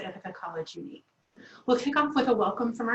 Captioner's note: Arabic; Vietnamese